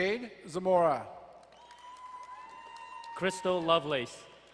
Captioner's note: crowd cheering and applauding